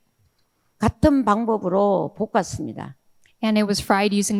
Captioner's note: speaking in foreign language